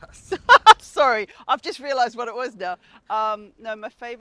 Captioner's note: laughs